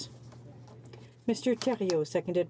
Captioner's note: speaking in french